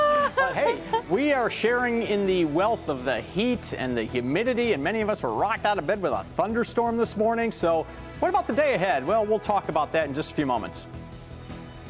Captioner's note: laughing